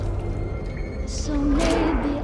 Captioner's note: water dripping